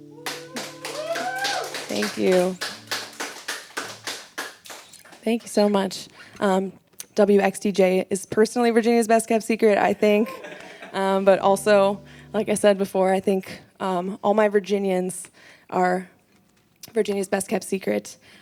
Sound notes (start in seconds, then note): 0.0 background clapping and cheering; 2.7 background clapping; 10.1 laughter